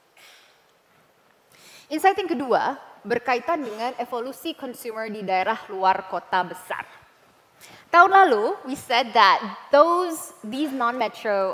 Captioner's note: non-english speech